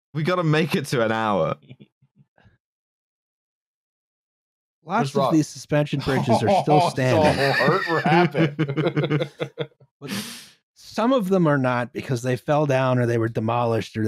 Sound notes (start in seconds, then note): 6.0 chortles; 6.0 laughing; 9.5 laugh